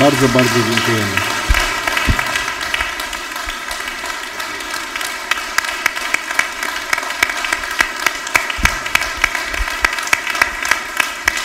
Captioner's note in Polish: oklaski